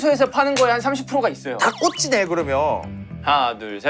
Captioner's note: in a voice full of confidence